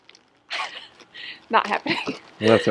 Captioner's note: laughs